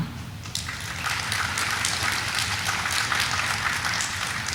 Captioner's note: audience applauding